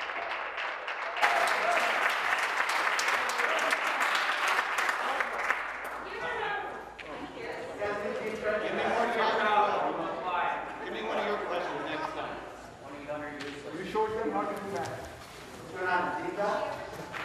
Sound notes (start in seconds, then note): 6.2 some Applause